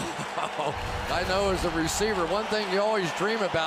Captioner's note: laughs